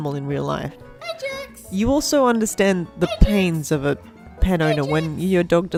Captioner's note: calling for "Ajax" in background